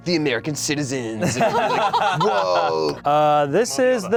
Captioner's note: laughs